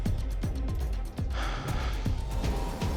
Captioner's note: sighs deeply